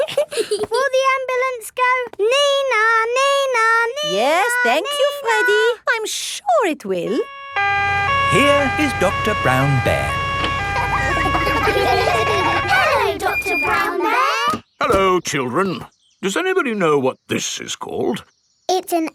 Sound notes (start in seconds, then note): 0.0 both giggling; 7.1 siren wailing; 11.2 kids laughing